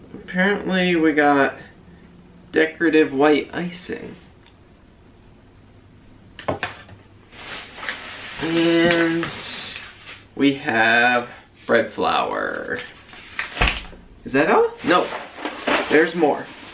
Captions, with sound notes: apparently, we got decorative white icing. [plastic crinkling] And... we have bread flour. Is that all? Nope, there's more.